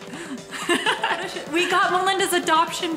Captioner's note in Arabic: أمي تضحك